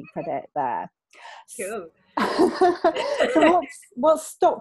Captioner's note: laughing